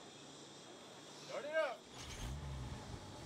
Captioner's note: vehicle engine starts